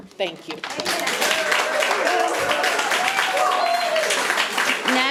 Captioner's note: audience applauding